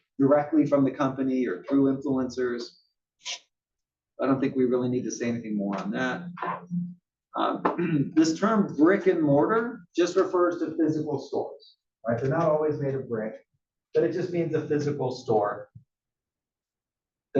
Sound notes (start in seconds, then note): 7.6 cough